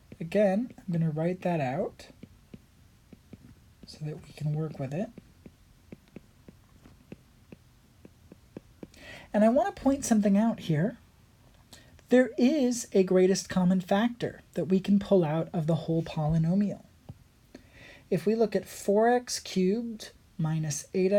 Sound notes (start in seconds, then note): 5.8 writing